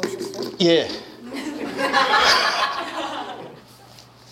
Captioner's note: staff bursts out laughing